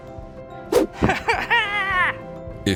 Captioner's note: giggles